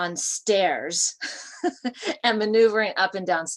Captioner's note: laughter